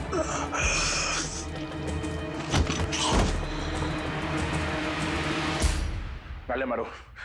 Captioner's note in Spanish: Gemidos